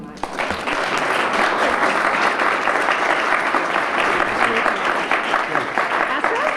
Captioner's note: applause